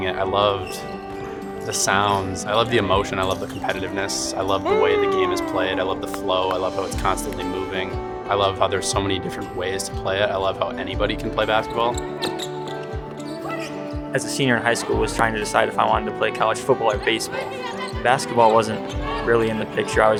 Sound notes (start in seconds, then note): 11.6 shoes squeaking; 12.1 ball bouncing